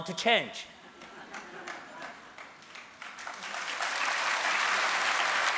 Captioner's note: applause